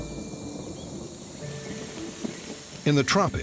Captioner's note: rain pattering